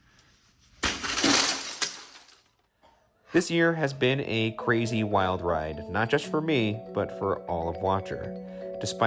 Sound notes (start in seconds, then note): 0.8 glass breaking